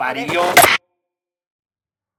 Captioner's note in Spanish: gran chasquido electrónico